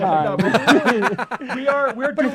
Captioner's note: laughter